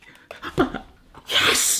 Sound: gasps

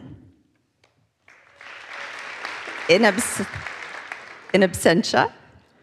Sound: audience applauds

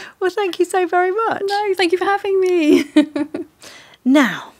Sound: chuckles

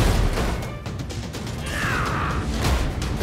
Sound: yells

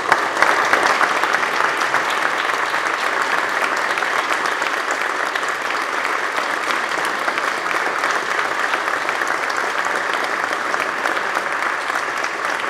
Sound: applause

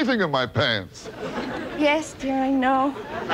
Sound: laughing

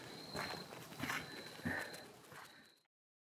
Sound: footsteps crunching

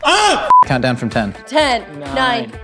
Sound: beep

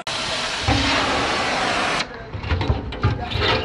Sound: metal thumping; torch flaring; metal thumping

